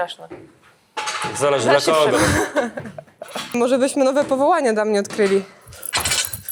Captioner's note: laughs